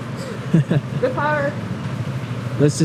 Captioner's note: A hollow laugh